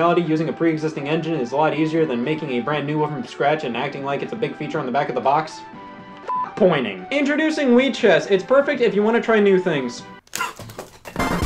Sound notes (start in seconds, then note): 6.2 beep; 10.4 spitting